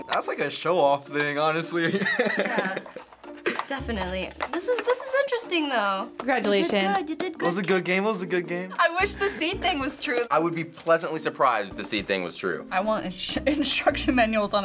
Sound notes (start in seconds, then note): 1.8 laughs